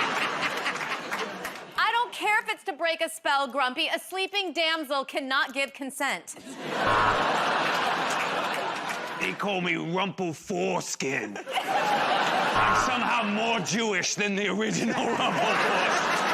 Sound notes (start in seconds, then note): 0.0 laughter; 6.8 buzzer buzzes